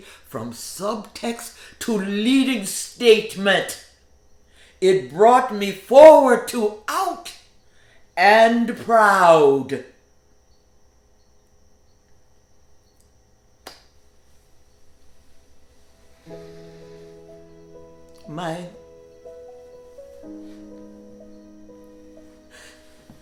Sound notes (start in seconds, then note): 11.2 insects chittering; 15.9 somber music